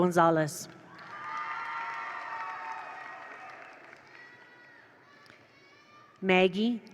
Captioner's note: attendees cheer; attendees applaud